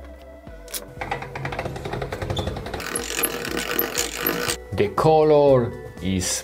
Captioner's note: machine whirring